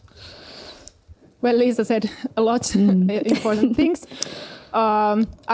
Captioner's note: naurua